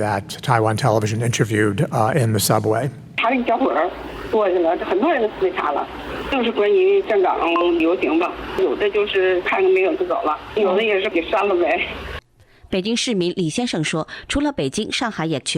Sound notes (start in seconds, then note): 3.1 woman speaking in foreign language; 12.8 reporter speaking in foreign language